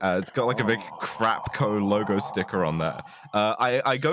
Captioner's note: makes very unhappy noises